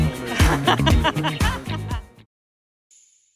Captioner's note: laughing